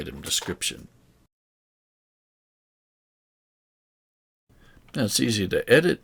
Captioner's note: silence